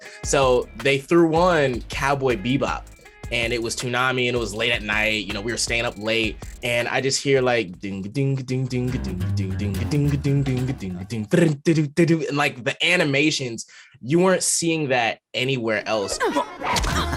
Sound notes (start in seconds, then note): 7.8 beatboxing Cowboy Bebop theme song